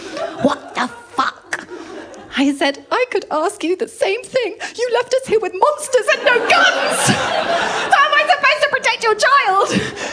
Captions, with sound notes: "What the fuck?" I said, “I could ask you the same thing..." "...you left us here with monsters and no guns.” [LAUGHTER] How am I supposed to protect your child?